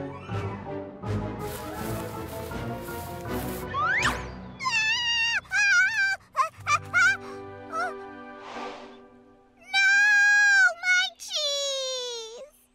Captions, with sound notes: [screaming] Oh! No! My cheese!